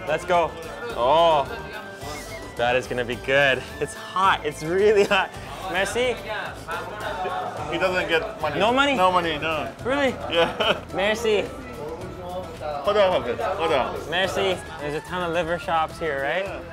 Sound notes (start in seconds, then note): 6.6 men speaking foreign language; 10.2 laughs; 13.0 men speaking foreign language